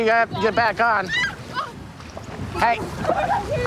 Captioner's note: screaming